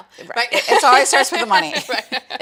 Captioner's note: laughs